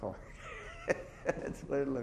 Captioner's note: chuckles